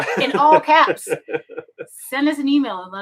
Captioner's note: laughing